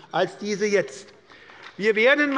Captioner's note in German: Beifall bei der SPD